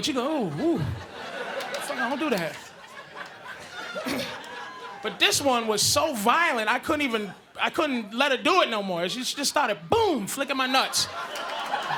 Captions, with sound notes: but you go, "Ooh, fuck no, don't do that." [audience laughing] But this one was so violent, I couldn't even... I couldn't let her do it no more. She just started, boom, flickin' my nuts.